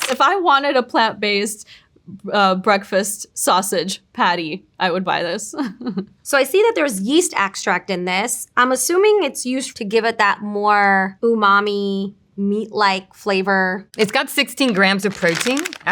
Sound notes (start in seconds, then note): 5.7 chuckles